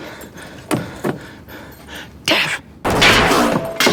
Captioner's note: gunshots